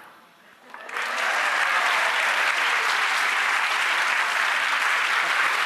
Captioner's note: applause